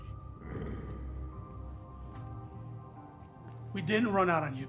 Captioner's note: Pete growls